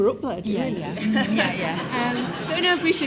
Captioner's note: audience laughs